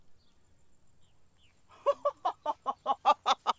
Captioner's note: laughing!